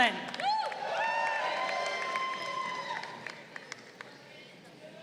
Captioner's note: crowd cheering